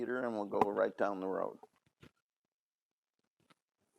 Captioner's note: none